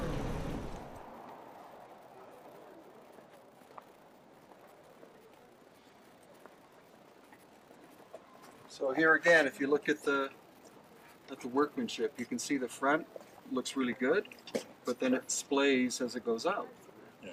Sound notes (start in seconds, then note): 4.9 footsteps thudding